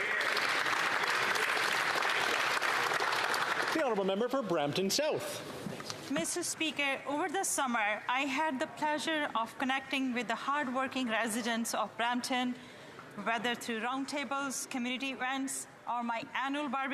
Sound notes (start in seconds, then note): 2.1 applause